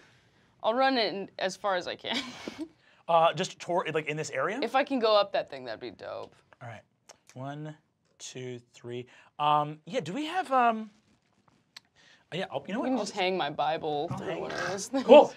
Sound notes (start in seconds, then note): 2.2 chuckles